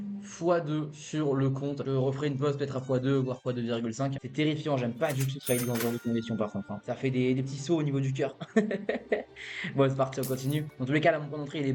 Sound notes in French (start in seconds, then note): 8.4 rires